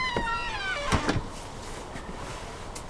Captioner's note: door closes